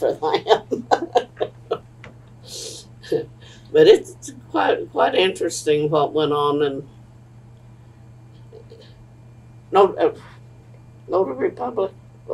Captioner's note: laughs